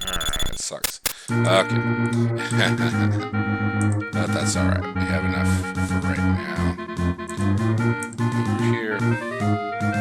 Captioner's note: laugh